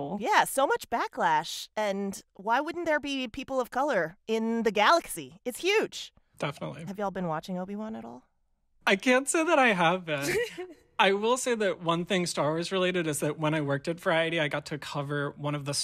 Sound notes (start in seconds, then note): 10.1 laughter